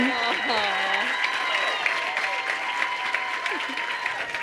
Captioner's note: crowd applauding